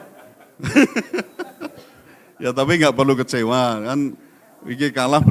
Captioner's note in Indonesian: tertawa